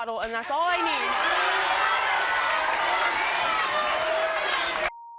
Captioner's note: crowd cheering